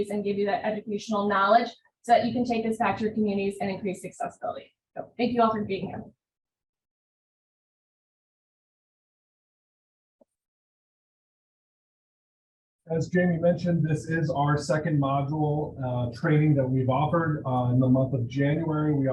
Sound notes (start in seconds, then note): 7.2 pause